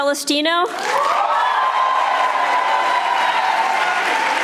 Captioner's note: audience applauding